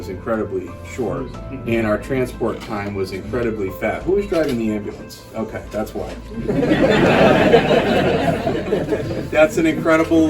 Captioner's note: laughter